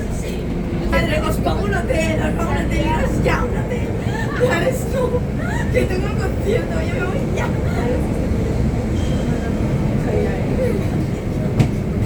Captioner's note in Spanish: Conversación indistinta / risas